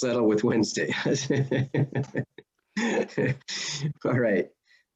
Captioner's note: laughs